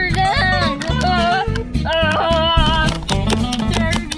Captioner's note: yelling